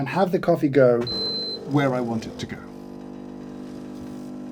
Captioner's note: machine beeps; machine brews